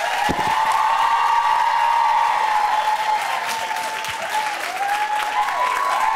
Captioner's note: applause